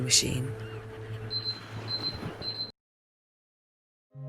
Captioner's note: beeping